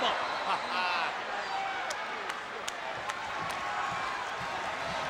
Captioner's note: laughs